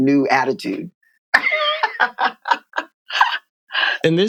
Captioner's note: laughter